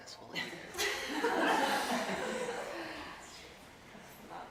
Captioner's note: audience laughing